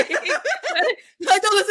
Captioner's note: laughs